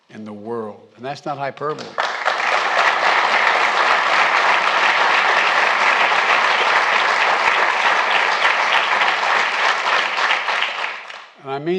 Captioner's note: applause